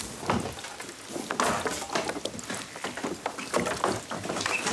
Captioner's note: wood thudding